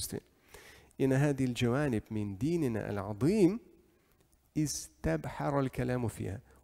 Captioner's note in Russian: Говорит на арабском